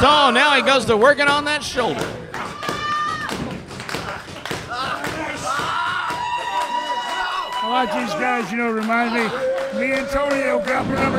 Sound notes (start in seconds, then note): 2.1 clapping; 3.8 crowd cheering